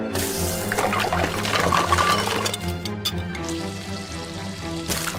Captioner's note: upbeat dramatic music; ingredients mixing; mixture sizzling